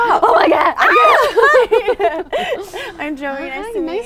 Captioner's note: squeals